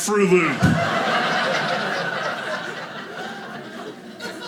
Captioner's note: audience laughing